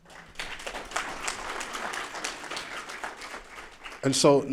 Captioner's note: applause